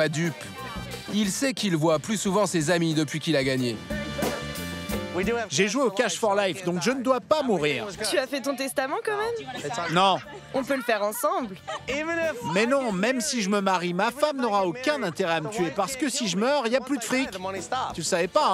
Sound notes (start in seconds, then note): 9.3 laughs